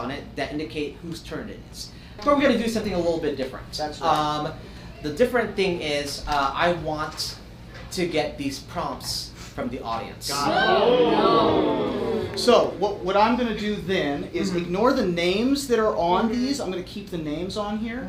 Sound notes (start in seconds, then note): 10.3 audience oohs